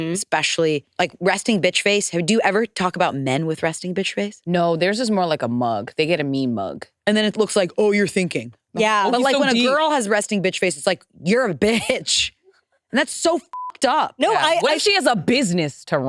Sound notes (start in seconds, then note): 13.5 beep